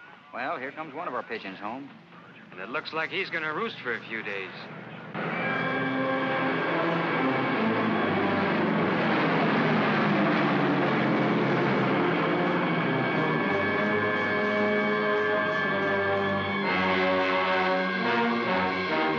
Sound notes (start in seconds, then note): 4.6 aircraft roars; 5.1 dramatic ominous music